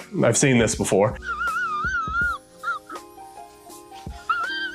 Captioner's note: wheezing